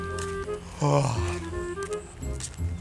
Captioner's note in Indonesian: menguap